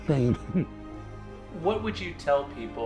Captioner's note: laughs